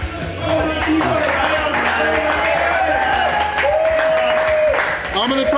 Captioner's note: crowd clapping and cheering